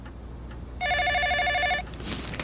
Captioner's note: телефонно звънение